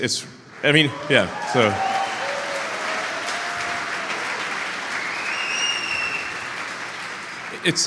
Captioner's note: Applause; 掌声